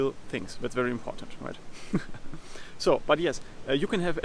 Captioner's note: laughs